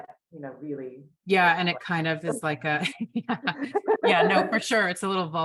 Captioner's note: laughs